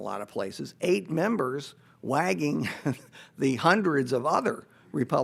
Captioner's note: chuckles